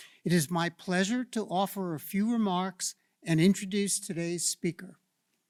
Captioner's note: none